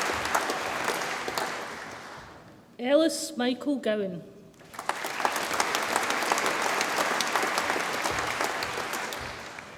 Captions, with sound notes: Ellis Michael Gowan, (audience applauds)